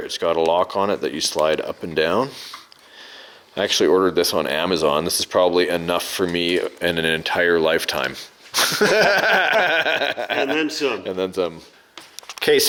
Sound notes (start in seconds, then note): 8.5 laughing